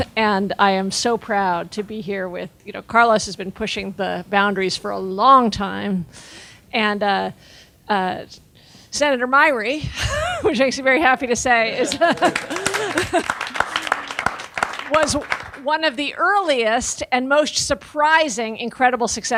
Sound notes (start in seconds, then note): 11.8 audience clapping